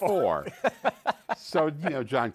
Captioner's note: laughs